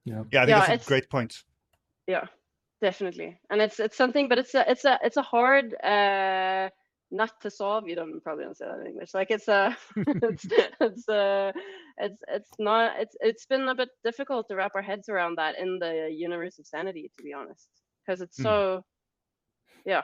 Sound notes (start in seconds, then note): 9.9 laughing; 9.9 laughs